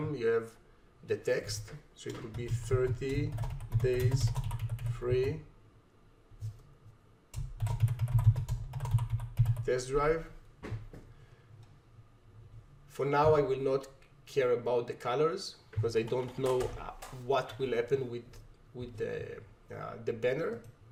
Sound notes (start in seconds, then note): 7.4 keyboard clacking